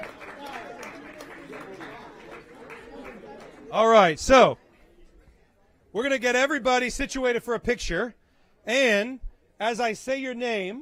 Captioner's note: cheering and applause